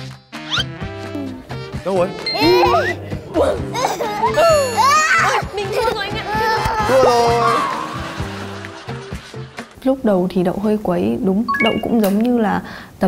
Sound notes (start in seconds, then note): 3.6 delighted laughter